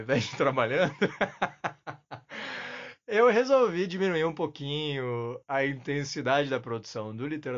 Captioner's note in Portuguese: risos